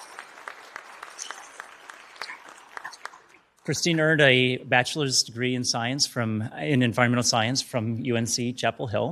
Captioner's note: applause